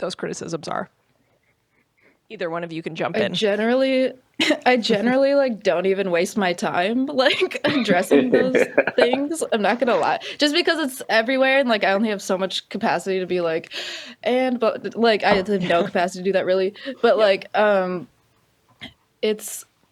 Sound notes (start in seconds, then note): 7.3 laughter